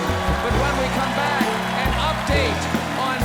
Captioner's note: cheers and applause